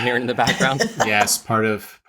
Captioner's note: laughing